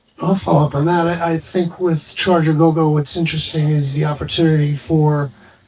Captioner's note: none